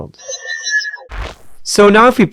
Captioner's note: machine whirring